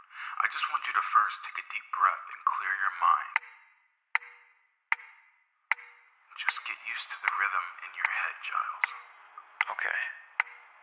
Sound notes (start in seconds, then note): 4.1 metronome ticks